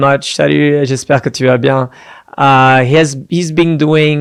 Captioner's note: foreign language